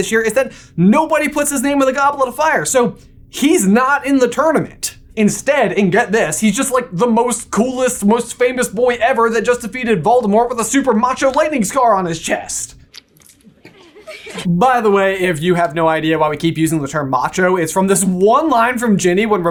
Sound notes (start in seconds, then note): 13.0 splurt; 13.5 girls giggling